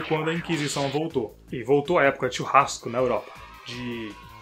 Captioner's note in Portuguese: eeeeeeeeeeeeeeeeee